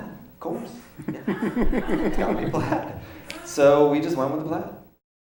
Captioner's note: audience laughs